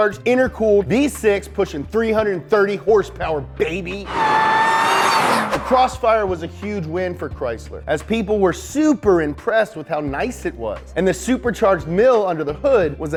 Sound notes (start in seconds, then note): 4.0 car revs